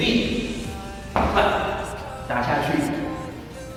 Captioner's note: bang